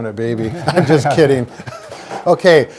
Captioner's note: laughs